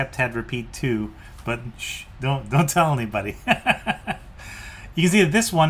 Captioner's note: laughs